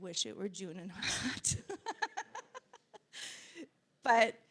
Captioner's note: laughing